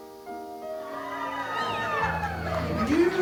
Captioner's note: crowd cheers, sentimental music plays